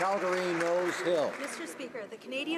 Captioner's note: applause